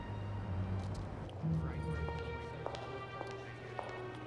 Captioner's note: chattering